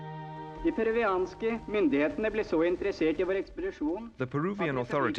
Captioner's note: Thor Heyerdahl speaking Norwegian